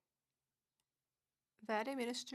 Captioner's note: speaking French